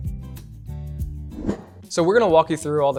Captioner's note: whoosh